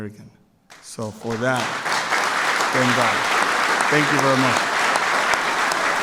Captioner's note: applause